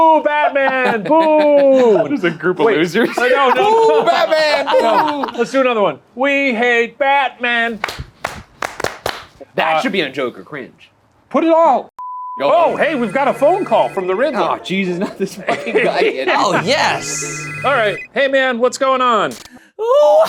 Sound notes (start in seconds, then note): 2.9 laughs; 7.7 group claps; 12.0 beep; 12.4 phone rings